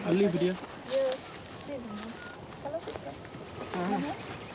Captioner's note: speaking foreign language